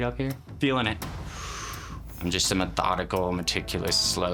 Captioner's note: breathing heavy